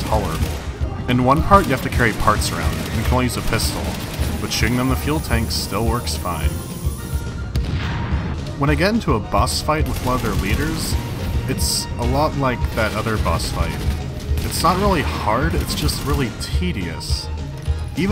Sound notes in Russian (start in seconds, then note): 7.5 ка-бум